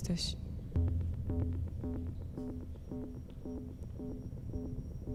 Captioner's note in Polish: Krótkie, miarowe, elektroniczne łopotanie